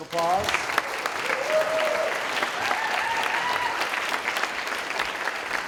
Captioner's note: audience cheering and applauding